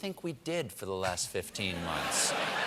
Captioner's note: laughter